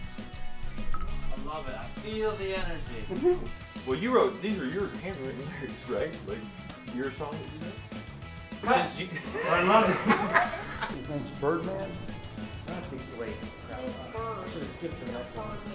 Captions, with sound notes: I love it. I feel the energy. These are your handwritten lyrics, right? Your song that you wrote? [Laughter] And his name's Birdman? His name's Bird. Bird!